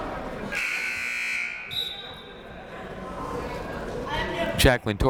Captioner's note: siren buzzing